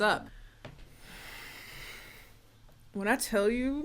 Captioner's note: sighs